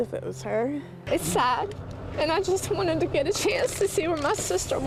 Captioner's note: tearfully